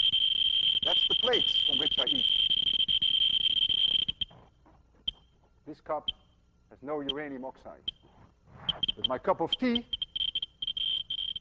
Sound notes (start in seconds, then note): 0.0 rapid high-pitched beeping; 4.8 much slower beeping; 10.8 rapid high-pitched beeping